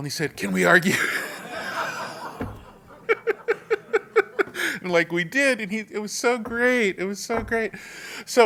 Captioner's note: laugh